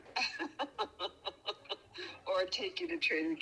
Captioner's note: mom laughing